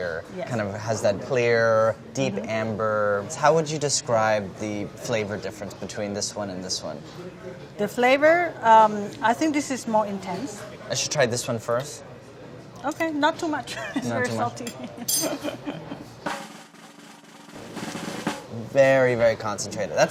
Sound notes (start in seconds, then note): 15.2 laughs; 16.2 drum roll